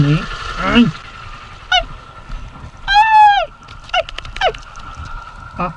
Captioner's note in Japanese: パパの鳴き声